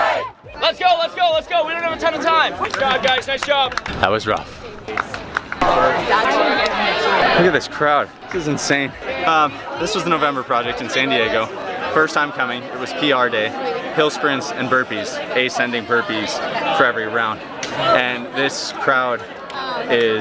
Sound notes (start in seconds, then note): 0.3 crowd; 5.1 crowd Chattering